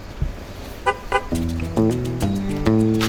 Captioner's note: car honks; upbeat music